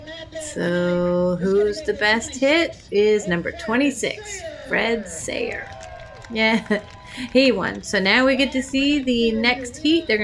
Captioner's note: crowd cheers